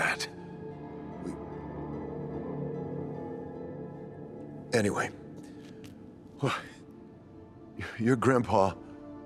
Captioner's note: eerie music; sighs